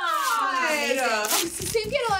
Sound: paper rustling

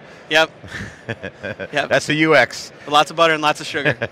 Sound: laughs

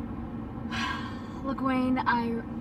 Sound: wind blowing; sighs

